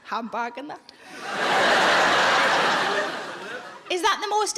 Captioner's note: audience laughing